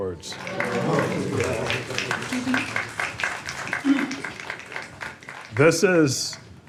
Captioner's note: applause